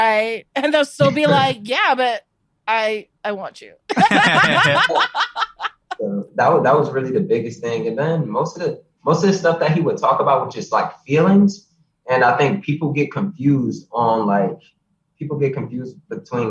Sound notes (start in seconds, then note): 3.9 all laughing; 11.2 laughs